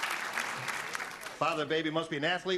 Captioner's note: clapping